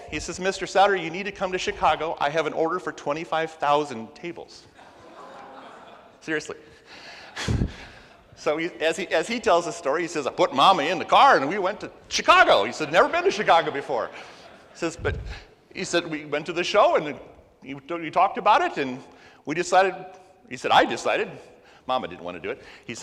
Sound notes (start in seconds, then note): 4.7 crowd laughs and gasps